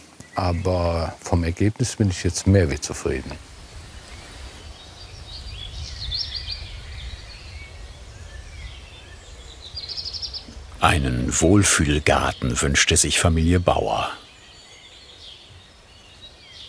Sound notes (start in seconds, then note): 5.9 birds chirping; 14.9 birds chirping